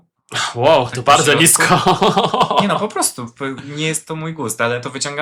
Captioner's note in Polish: śmiech